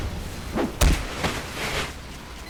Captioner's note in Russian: шмяк